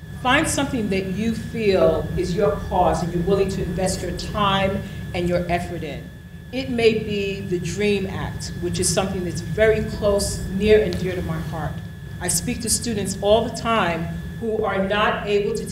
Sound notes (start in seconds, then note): none